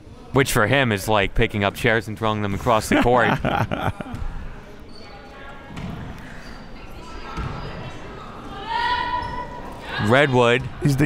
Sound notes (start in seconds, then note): 2.8 laughs; 5.3 crowd murmuring